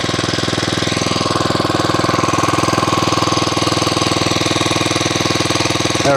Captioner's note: motor running